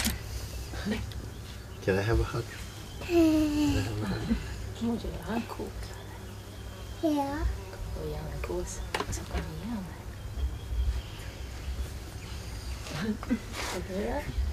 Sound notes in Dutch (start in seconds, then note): 3.0 kind giechelt; 4.8 er wordt iets in een vreemde taal gezegd